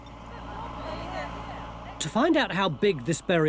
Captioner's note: machinery humming